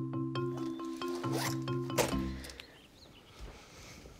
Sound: zipper zipping

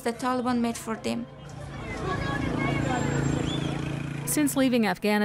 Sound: crowd chattering; engine revving

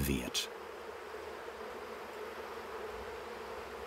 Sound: humming, birds chirping

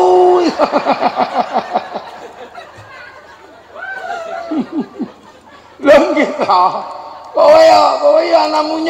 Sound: laughs

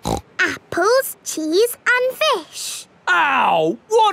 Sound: snorts

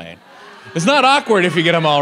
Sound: audience laughs

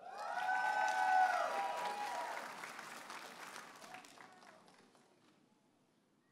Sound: audience applauding and cheering

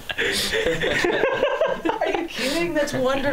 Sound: laughter

